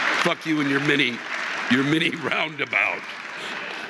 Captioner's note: audience laughing